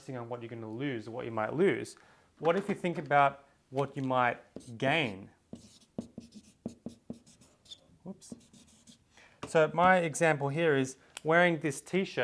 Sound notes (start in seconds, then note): 5.5 marker squeak